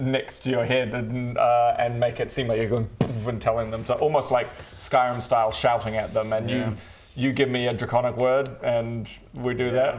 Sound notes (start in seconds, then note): 2.8 boof